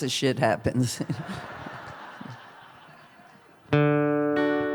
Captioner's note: laughter; acoustic guitar